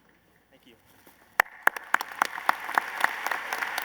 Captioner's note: applause